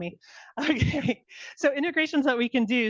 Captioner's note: laughing